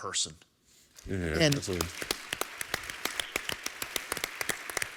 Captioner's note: applause